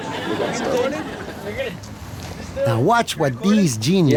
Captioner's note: audience laughing